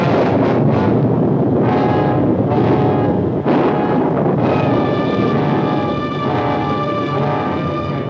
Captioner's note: thunder booms